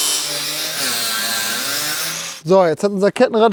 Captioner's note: Flexgeräusche